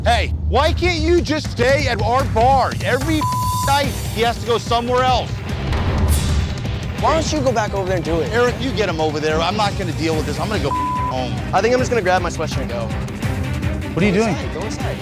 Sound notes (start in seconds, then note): 3.1 beep